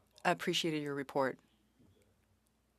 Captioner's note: speaking French